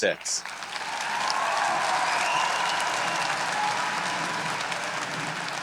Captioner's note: audience cheering